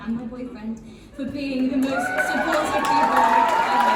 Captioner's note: woo!